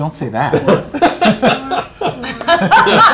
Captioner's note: laughter